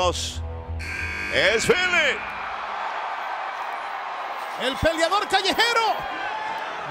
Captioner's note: applause